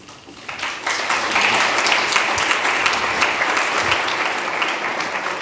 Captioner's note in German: beifall